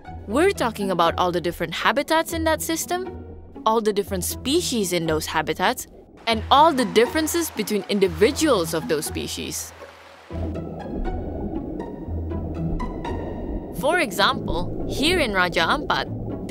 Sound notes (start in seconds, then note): 9.7 upbeat music; 9.7 water flowing